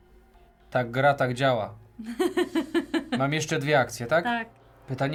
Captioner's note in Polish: śmiech